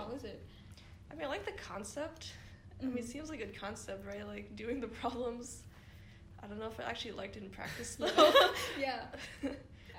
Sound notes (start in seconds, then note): 8.0 laughter